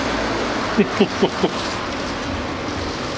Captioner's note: laughter